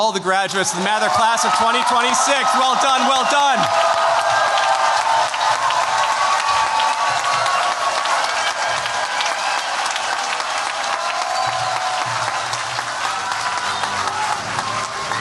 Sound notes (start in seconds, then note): 3.9 cheers, applause